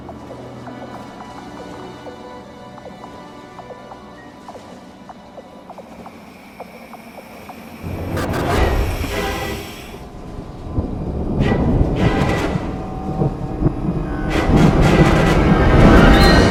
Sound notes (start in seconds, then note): 6.6 lights buzzing; 8.0 tense music